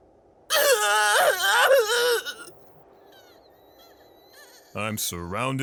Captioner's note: sobbing